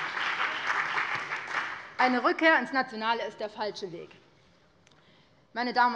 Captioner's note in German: Beifall BÜNDNIS 90/DIE GRÜNEN und CDU